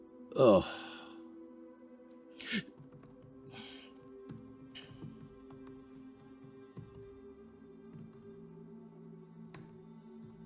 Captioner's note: keyboard clicking